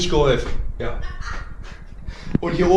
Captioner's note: laughing from living room